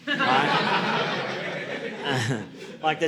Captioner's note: audience laughing